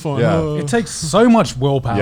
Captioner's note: laughs mockingly